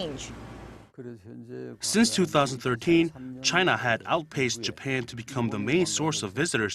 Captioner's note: Korean